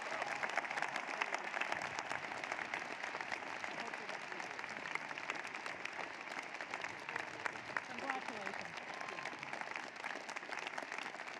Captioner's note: applause